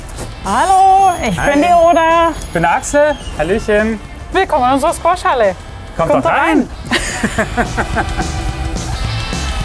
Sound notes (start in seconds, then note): 6.8 both laugh; 7.1 rock music